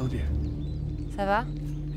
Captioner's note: Ellie speaks in French